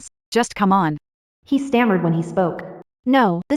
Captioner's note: he stammered when he spoke